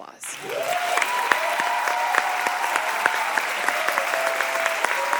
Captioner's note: audience applauding